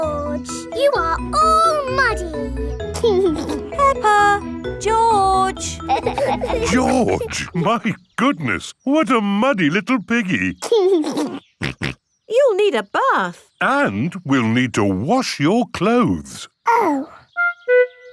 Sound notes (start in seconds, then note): 2.9 giggling; 11.6 giggles and snorts